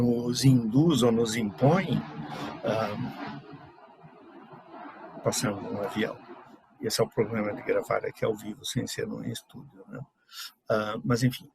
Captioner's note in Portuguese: ruído de avião passando